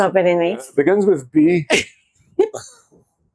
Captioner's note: laughter